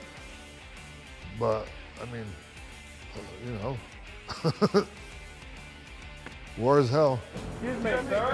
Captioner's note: laugh